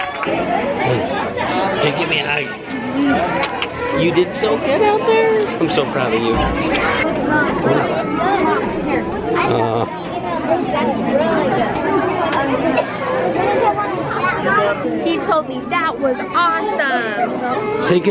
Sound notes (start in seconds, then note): 7.0 people talking